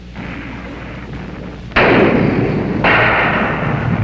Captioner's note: guns firing